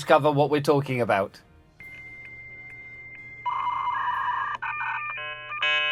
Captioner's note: phone ringing